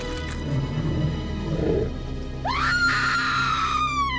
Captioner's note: blood gushes; Connie screams; dragon growls